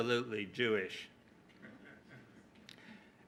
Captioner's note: laughter